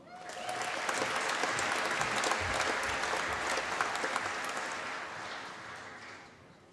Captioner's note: applause